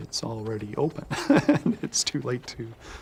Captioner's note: laughs